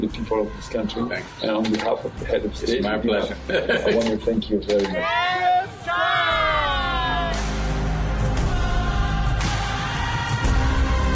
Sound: laughs

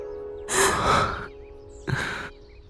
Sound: sighs

